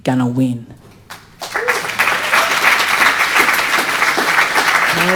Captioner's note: audience applauding